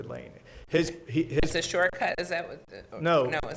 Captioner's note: stutters